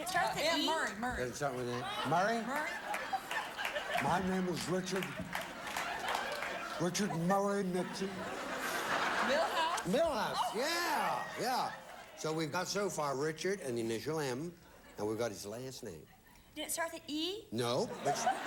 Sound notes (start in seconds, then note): 2.9 audience laughing; 4.2 imitating Richard Nixon; 8.8 audience laughing